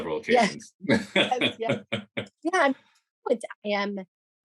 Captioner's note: laughs